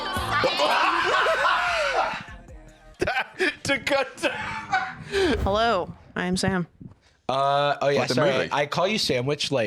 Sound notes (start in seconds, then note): 0.4 laughs uproariously; 4.2 laughing